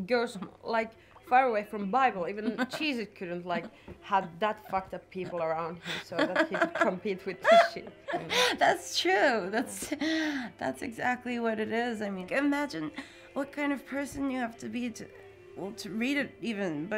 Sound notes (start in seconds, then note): 7.4 murmuring